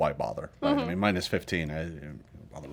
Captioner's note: grumbles